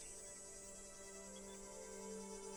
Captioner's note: none